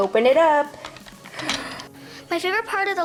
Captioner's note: gasps